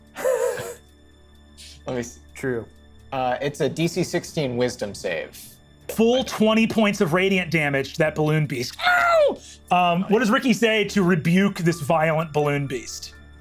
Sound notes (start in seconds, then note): 0.2 laughs; 9.4 screeches